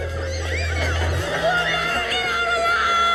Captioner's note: screaming